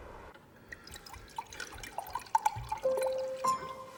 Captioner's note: wine pouring; sad piano music